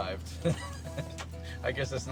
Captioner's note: laughs